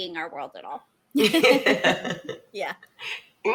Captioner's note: laughs